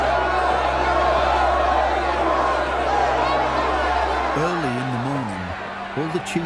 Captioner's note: crowd cheering